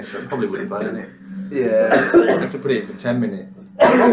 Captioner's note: coughs